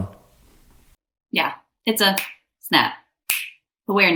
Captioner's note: fingers snapping